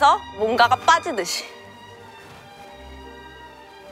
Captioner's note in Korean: 스르륵